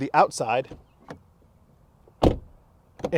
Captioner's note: door slams